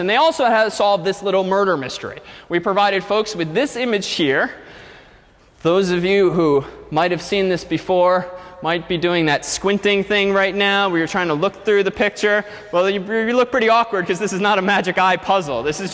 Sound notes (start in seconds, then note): none